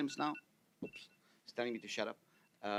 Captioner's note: phone ringing